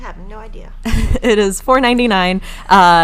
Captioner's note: laughing